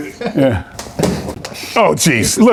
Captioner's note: phone clatters